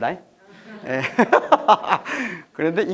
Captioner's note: haha